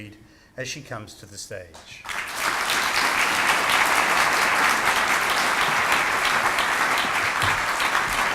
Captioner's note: audience claps